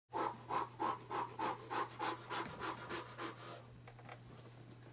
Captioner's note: breathing excitedly